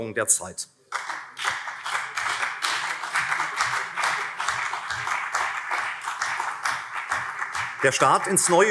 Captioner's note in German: Beifall CDU und vereinzelt SPD